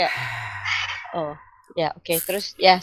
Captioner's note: heavy sigh